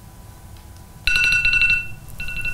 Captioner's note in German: Timer klingelt